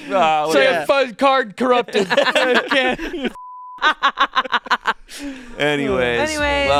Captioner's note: everyone laughing